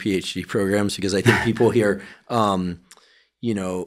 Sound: chuckling

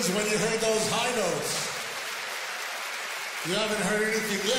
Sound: audience applauds

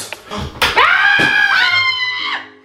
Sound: screaming

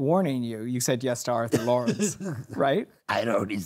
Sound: laughing

